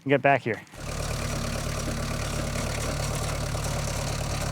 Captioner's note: engine rumbling